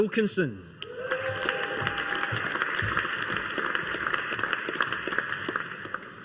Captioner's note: audience applauding